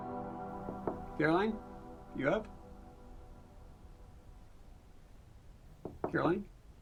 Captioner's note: knuckles rapping; knuckles rapping